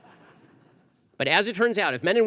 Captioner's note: audience laughter